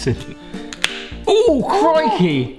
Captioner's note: pit cracks